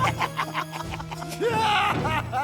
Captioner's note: laughing; laughs